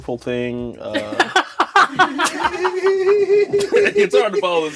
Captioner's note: all laugh